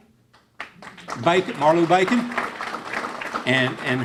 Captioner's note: clapping